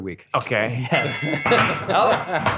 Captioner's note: gong clangs